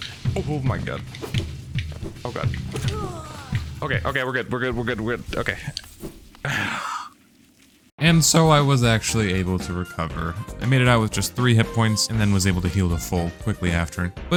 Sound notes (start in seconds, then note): 6.4 sigh of relief